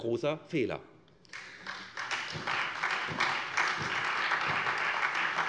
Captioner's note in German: Beifall SPD und Freie Demokraten